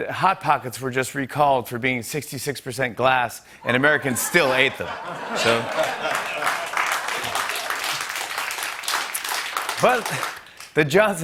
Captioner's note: applause